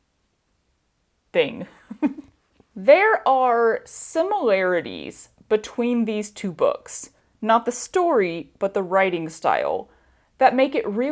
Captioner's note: chuckle